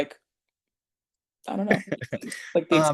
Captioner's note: laughs